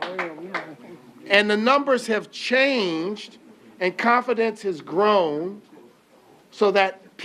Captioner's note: applause